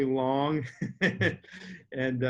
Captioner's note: laughs